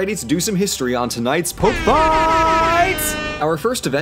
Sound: airhorns

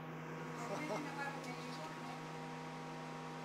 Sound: chuckles

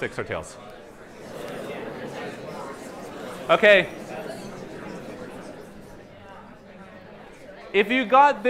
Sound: chatter

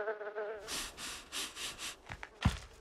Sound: bee buzzes; sniffing; footsteps

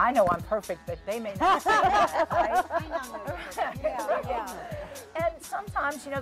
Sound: group laughing

